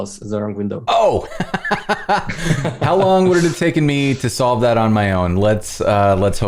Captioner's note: laughter